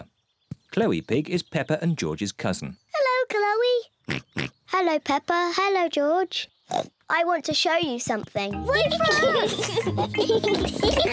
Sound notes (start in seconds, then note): 4.1 oinks; 6.7 oinks; 9.0 giggles